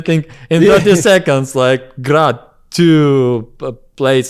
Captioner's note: laughs